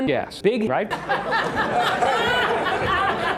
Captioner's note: laughter